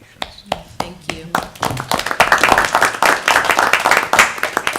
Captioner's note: applause